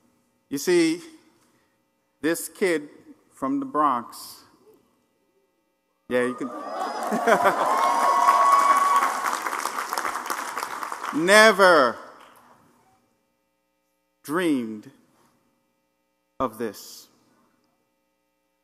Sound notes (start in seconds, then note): 6.4 laugh; 6.6 applause